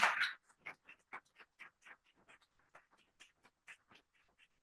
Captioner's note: applause